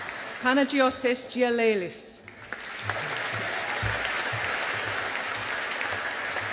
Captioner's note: audience applauding